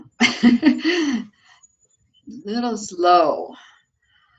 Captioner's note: laughs